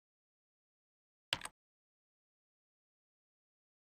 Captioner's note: typing sounds